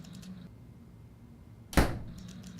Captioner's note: door slams